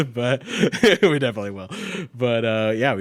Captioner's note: laughs